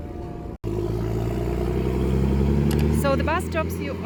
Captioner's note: bus leaving the stop, roaring sound